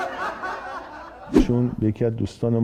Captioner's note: laughter